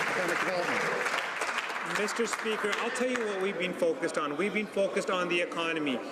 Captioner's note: some Applause